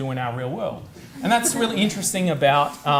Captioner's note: audience laughs